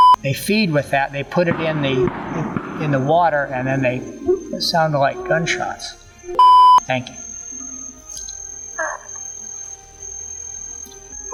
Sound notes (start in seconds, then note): 6.3 beep Sound; 8.1 grunts